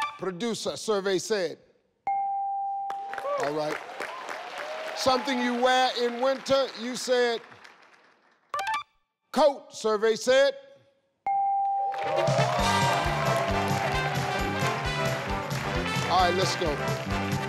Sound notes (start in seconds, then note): 2.4 scoreboard dings, audience cheers; 11.2 scoreboard dings; 12.0 audience cheers, triumphant music